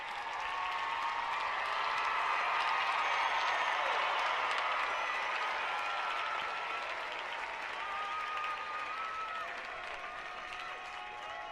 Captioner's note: applause